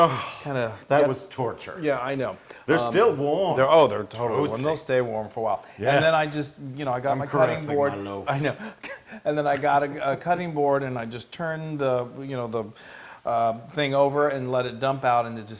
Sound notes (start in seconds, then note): 7.2 laugh